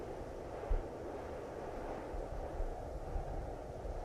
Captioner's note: wind humming